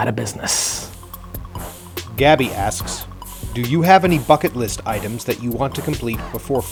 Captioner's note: voiceover